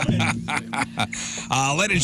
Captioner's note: laughing